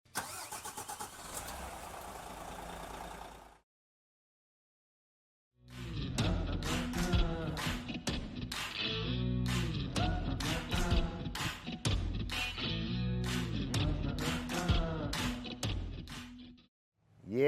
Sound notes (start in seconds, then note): 0.2 engine revving; 6.1 upbeat music